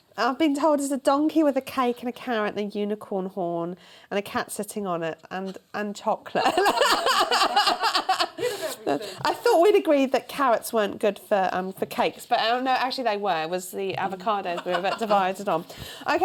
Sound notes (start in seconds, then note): 6.4 laughter